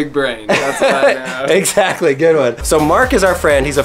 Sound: laughs

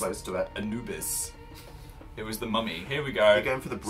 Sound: pffft

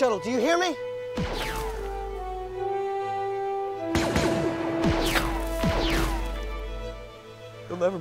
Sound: blaster fire

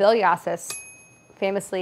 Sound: bell pings

